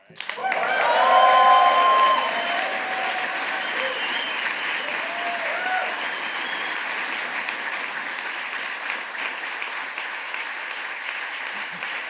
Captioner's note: applause